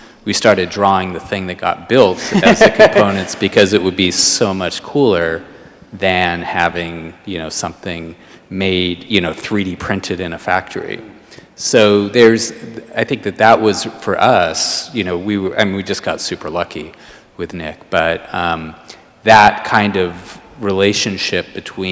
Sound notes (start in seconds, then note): 2.1 laughs